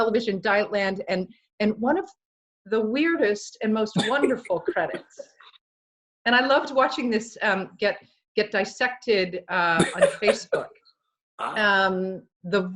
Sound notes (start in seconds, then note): 4.5 laughs; 9.8 laughs